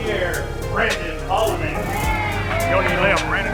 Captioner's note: cheering